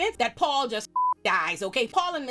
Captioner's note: beep